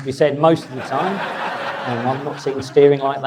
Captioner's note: audience laughs